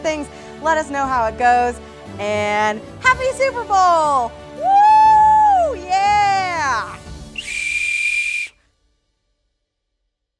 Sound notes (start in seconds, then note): 7.3 weak whistle